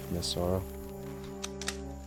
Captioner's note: gun cocks